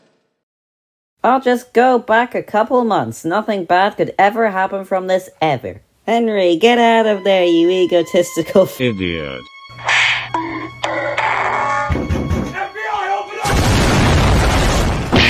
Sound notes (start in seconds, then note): 9.8 whacking noises; 11.7 knock knock; 15.0 beep!!